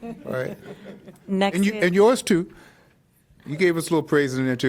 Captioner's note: laughter